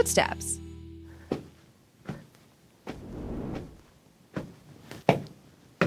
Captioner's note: footsteps